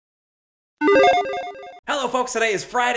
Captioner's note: logo beeps